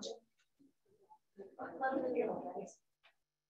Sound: people mumbling

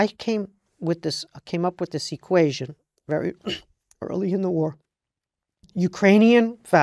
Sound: cough

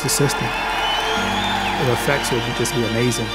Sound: cheering

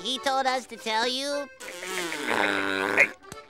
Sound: laughing

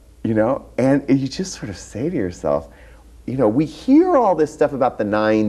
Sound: none

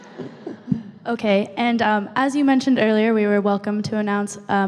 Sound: voiceover

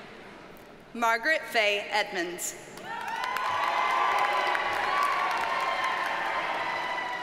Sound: audience cheers and applauds

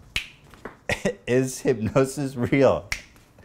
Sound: snap!; snap!

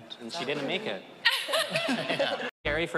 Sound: laughing

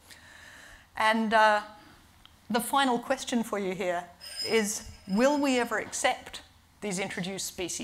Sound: bell rings

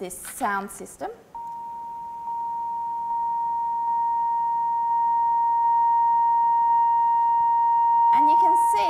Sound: beeping tone

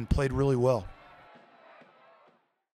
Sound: cheering

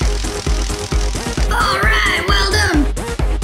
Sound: electricity crackling

